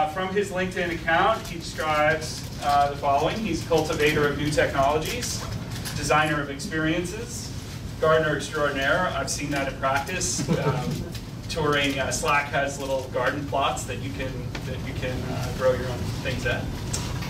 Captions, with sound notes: From his LinkedIn account, he describes the following. He's cultivator of new technologies. Designer of experiences. Gardener extraordinaire. I've seen that in practice. (laughing) Touring Slack, has little garden plots that you can grow your own things in.